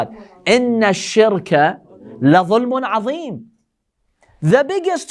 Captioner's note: Arabic